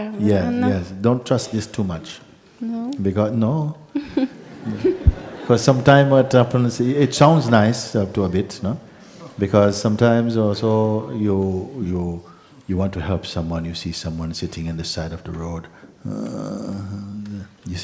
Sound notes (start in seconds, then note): 3.9 laughter